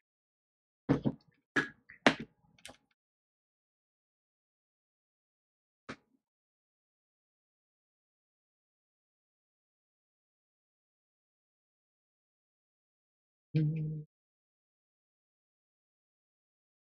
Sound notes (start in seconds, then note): 13.5 hums